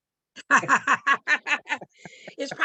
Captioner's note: chuckling